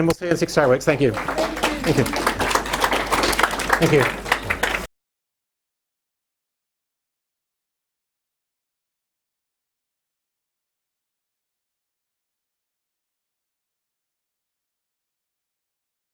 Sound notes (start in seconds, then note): 0.3 audience applauding